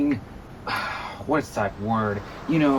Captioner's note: sigh